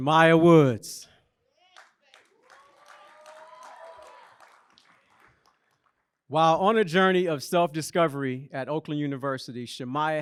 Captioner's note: applause